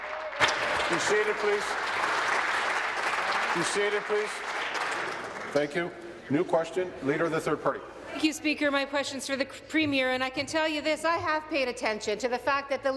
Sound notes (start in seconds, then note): 3.3 applause